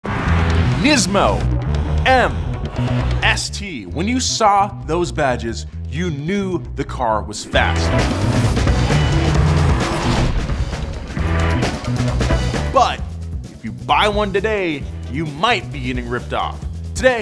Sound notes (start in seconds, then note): 0.0 engine roars; 7.2 upbeat music; 7.5 engine roaring